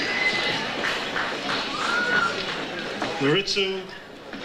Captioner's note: audience applauds